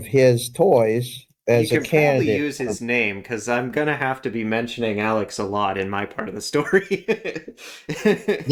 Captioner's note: laugh